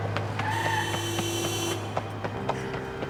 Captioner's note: tires screech; car horn beeps; woman panting